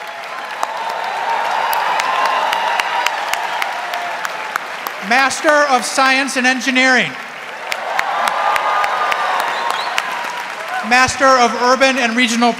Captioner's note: applause